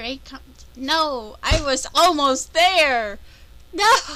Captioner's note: slams fist on desk